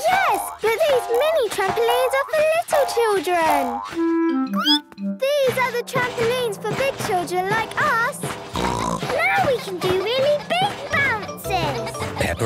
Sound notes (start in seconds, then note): 4.4 squeaks; 8.4 snorts